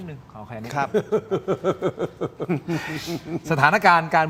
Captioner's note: laughs